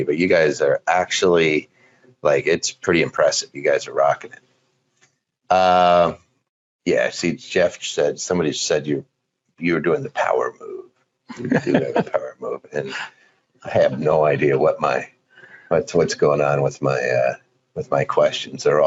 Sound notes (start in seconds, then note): 11.3 laughing